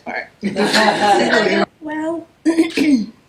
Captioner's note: background laughing